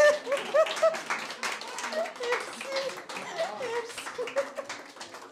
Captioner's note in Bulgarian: аплодисменти